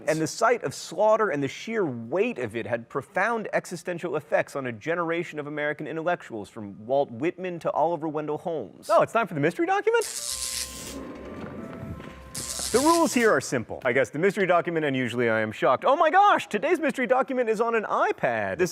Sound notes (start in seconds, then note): 10.0 inquisitive music; 10.2 electricity buzzing